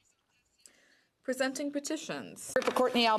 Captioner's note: speaking French